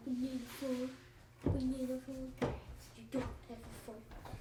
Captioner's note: kid chattering